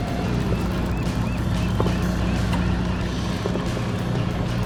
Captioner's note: birds chirping